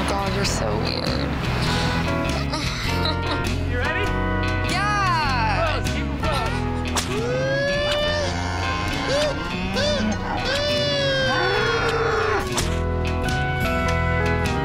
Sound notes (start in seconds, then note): 7.1 man whooping; 7.2 cow moos